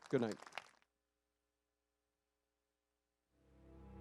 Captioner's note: applause